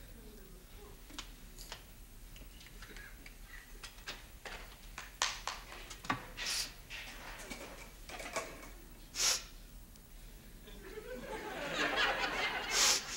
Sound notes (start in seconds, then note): 9.2 sniffing; 10.8 audience laughs